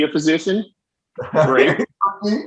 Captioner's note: laughing